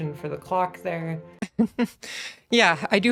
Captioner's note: laugh